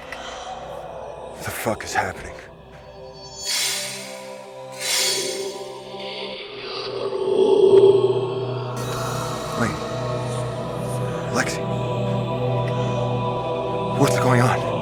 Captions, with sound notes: What the fuck is happening? (Blades Slashing) (Demonic Chanting Continues) Wait, Lexie... what's going on?